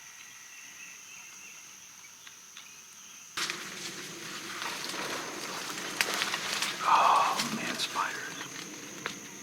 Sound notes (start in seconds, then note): 3.5 airplane flying